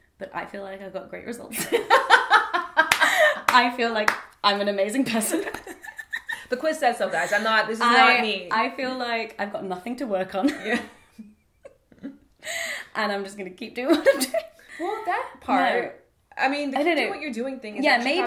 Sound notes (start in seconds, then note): 2.0 laughs; 5.3 both laugh